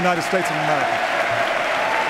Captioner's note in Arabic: تصفيق